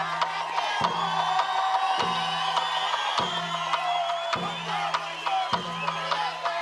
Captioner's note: cheering, applause